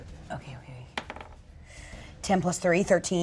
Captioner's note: dice rolling